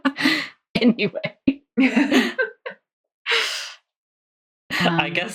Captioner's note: laughing